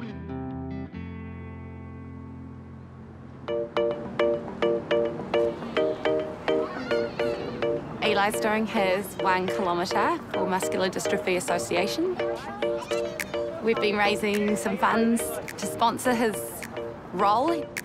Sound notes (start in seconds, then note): 3.4 upbeat music; 6.4 children chatter